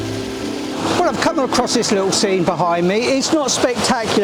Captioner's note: waterfall sounds